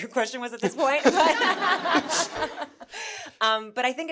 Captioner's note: everyone laughing